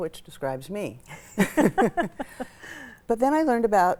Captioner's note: laugh